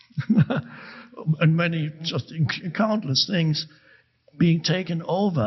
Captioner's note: chuckles